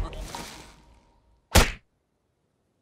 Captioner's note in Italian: Splat!